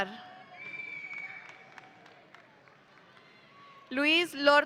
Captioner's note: audience cheering